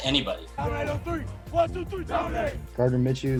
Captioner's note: football team breakout from huddle